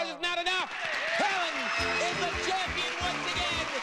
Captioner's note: audience cheering